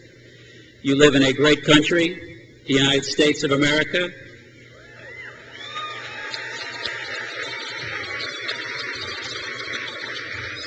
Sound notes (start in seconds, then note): 4.8 crowd cheers